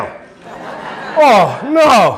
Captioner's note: audience laughing